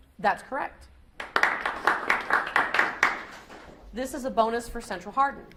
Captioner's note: audience applauds